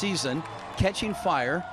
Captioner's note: applause